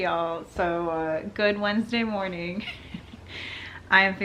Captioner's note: laughs